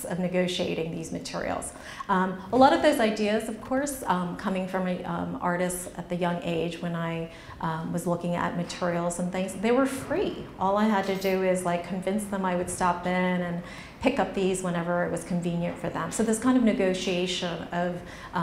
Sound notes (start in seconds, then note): none